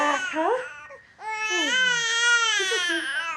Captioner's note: baby crying